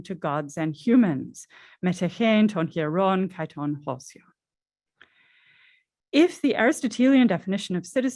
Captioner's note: non-english speech